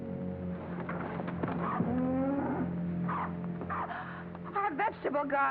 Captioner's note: cow moos